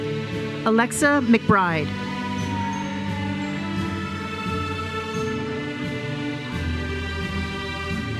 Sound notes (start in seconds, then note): 2.9 audience cheers and applauds